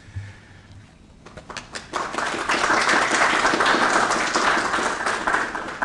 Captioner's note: applause